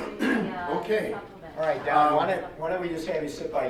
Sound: clears throat

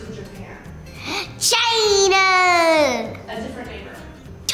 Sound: gasps

